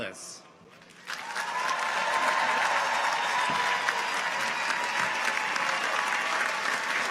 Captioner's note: audience applauds; audience cheers